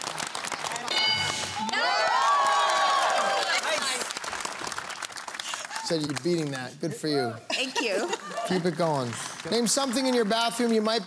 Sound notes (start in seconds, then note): 0.0 cheers, applause; 0.9 bell dings